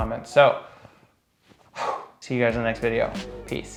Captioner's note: exhales